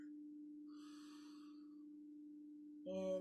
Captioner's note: inhaling deeply